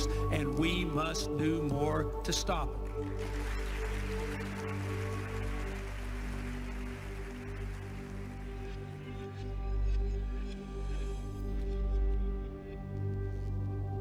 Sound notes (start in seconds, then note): 2.2 applause; 6.3 somber music